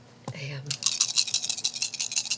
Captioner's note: rattling dice